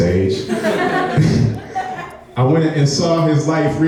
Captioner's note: laughing